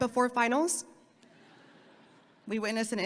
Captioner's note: audience laughing